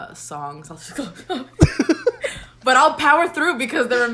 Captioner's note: laughs